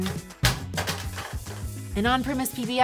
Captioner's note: money gun clattering